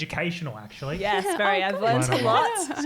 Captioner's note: giggling